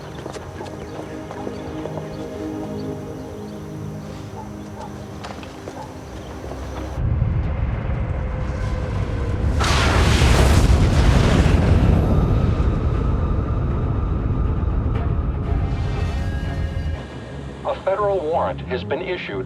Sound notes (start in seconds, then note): 9.7 thunderous sound